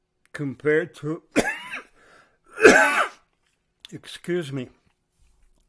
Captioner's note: caughing